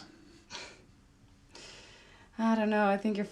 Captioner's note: scoffs